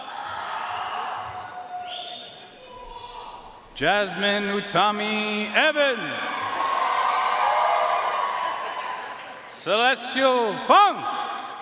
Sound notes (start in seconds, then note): 0.0 audience cheering and applauding; 5.9 audience cheering and applauding